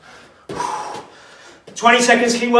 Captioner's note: exhales sharply